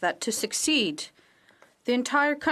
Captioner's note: speaking French